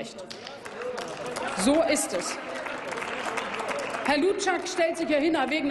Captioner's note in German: Applaus